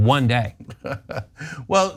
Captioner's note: laugh